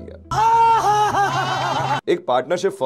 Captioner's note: laughing